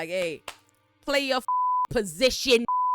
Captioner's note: beep